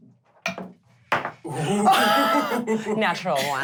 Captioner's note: dice thudding